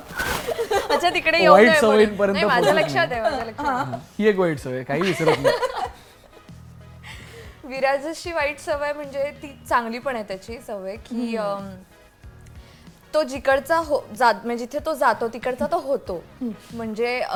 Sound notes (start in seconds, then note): 5.6 laughs